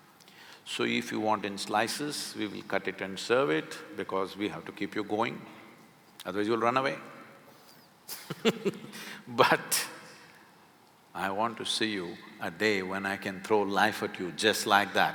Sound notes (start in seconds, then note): 8.1 laughs